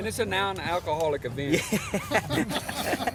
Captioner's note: all laughing